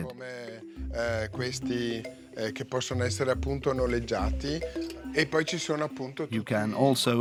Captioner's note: Italian spoken audio